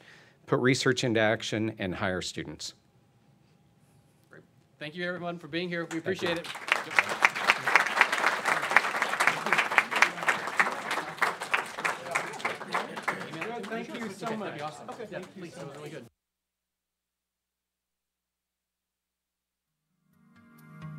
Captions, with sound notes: put research into action, and hire students. - Thank you everyone for being here. We appreciate it. (applause)